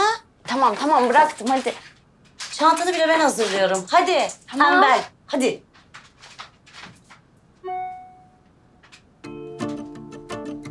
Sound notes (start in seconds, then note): 7.6 message tone